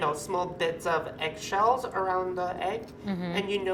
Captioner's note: none